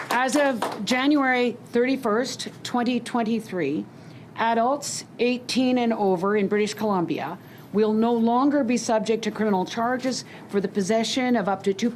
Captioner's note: applause